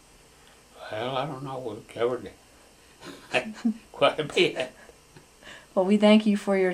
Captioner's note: laughter